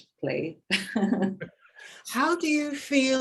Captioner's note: woman chuckling